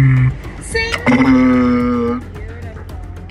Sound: walrus makes slightly higher pitched vocalization; walrus makes deep humming vocalization

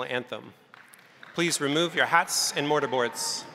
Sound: crowd applauding

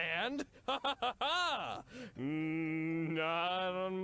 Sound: laughs

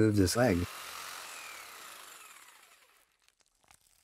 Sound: saw buzzing

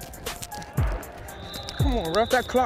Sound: whistle

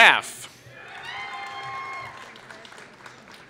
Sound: applause

